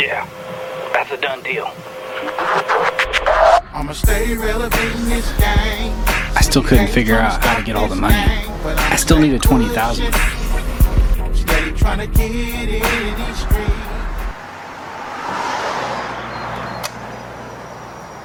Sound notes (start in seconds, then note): 2.9 rap music on radio; 6.6 Mr. X VOICEOVER; 14.7 cars roaring